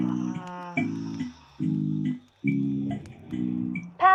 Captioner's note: bright chime